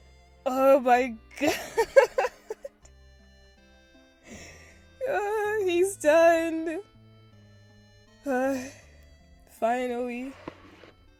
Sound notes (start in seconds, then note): 1.4 laughs happily; 8.2 sighs